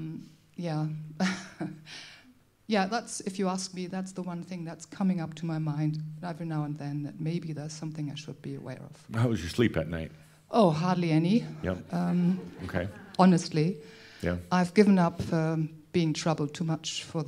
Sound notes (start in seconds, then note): 12.2 a few chuckles